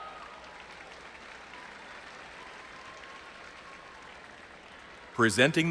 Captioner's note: audience applauding and cheering